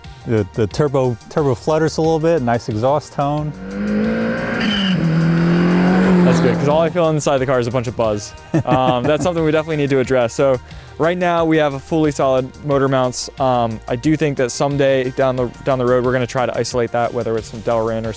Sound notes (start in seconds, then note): 3.0 engine revving